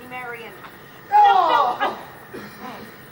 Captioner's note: Robin moans; Robin breathes heavy